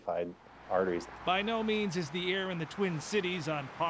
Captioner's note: voiceover